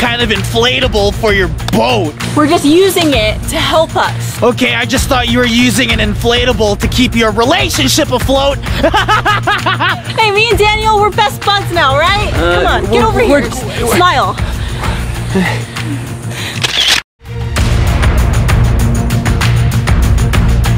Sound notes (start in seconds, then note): 8.7 laughing; 16.9 clicking; 18.1 upbeat music